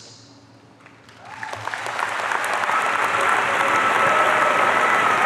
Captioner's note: audience cheering